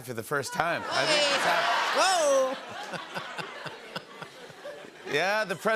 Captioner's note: laughter